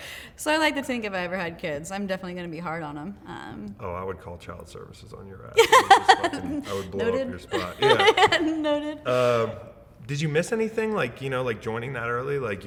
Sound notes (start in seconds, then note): 5.6 laughing